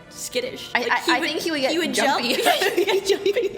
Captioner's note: laughs